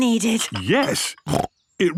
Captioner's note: snorts